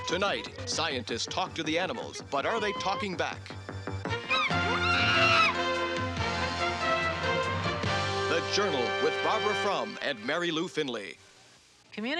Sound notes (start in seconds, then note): 3.7 dramatic music; 4.2 chimp shrieking